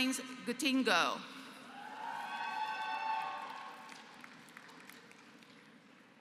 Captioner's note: applause